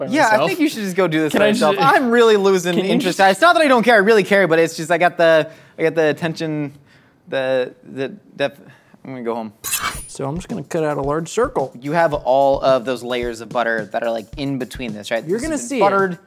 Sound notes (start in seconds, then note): 9.6 knife slices